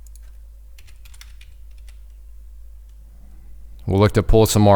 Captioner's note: keyboard clicking